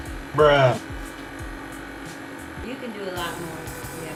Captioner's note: male Voice